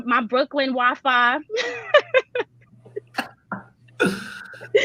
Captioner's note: laughs brightly